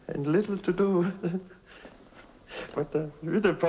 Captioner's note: giggling